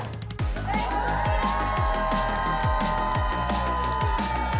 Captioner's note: all cheering